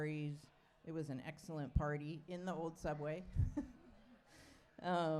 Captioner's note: chuckles